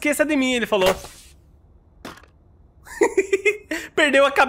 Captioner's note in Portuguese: risos